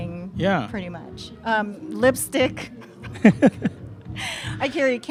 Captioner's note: laughs